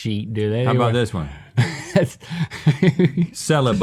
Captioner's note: laughing